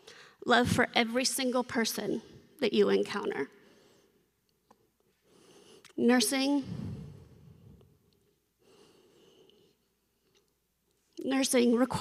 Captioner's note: snorts